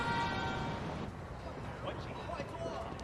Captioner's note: indistinct chatter